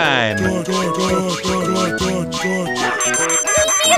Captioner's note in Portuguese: Um monte de toque